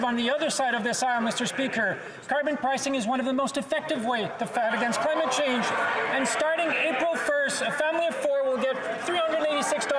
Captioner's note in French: voix de l'interprète